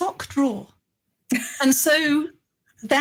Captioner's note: laughing